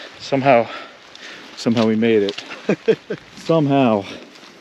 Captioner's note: laughing